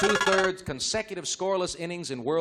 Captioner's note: buzzer